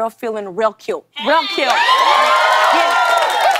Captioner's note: cheers and applause